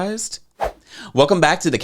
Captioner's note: graphics whoosh